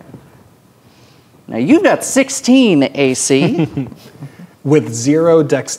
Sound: chuckles

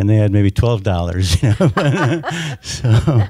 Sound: laughing

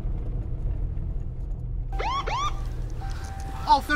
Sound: police Car

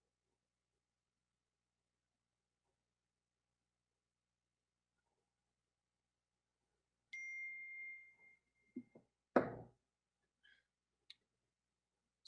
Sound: silent prayer

